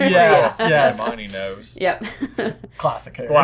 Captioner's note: laughter